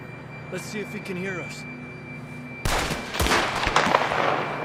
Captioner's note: shots fired